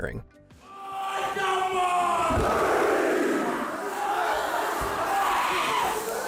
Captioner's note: students stomping feet; students chanting